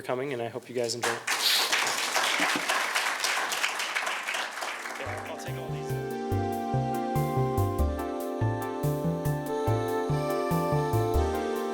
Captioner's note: applause